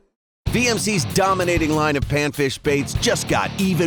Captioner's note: voiceover